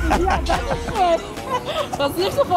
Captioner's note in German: lacht